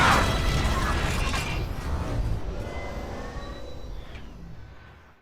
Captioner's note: mechanical Sounds